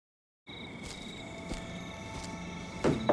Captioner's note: insects chirping